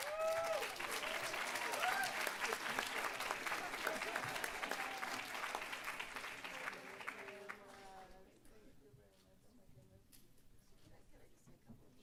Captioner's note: applause